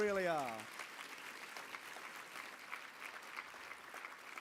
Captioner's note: applause